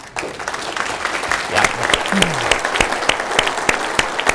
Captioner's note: applause